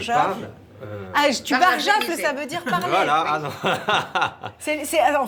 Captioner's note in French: rires